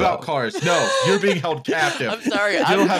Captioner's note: laughing